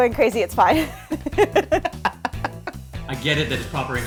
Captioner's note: both laugh